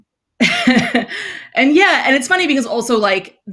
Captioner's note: laughs